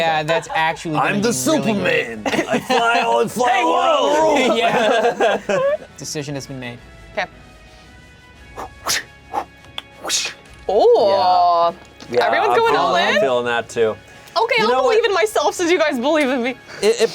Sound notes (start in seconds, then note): 4.7 laughing; 8.5 whooshing